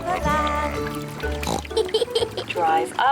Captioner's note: oinks and giggles